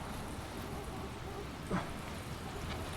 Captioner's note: grunts